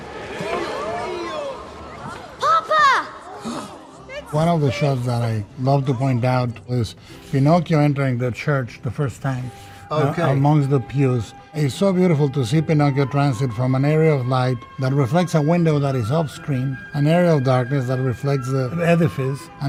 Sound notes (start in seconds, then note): 0.0 congregation exclaiming; 3.3 Geppetto gasping